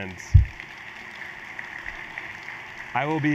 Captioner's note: audience applauds